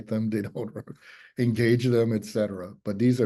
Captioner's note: chuckles